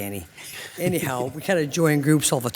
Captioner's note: laughing